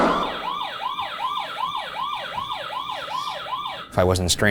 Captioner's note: alarm blaring